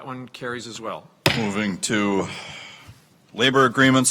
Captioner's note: gavel bangs